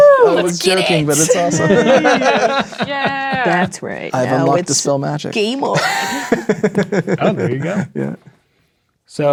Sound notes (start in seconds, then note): 1.1 players laughing and cheering; 8.3 laughing